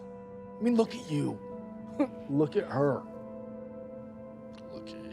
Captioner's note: laughs